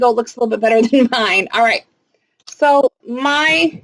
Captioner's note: chuckles